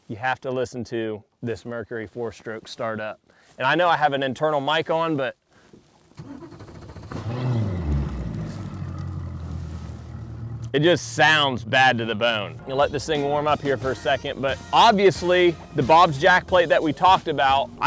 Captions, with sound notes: You have to listen to this Mercury four-stroke startup. And I know I have an internal mic on but... (boat engine roars) it just sounds bad to the bone. You let this thing warm up here for a second but obviously the Bob's jack plate that we talked about,